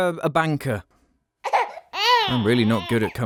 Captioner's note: baby crying